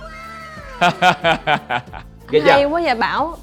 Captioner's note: laugh